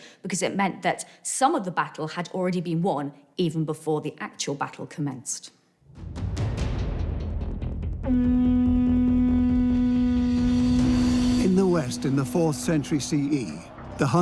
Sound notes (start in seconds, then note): 5.9 percussive sounds; 8.0 horn rings out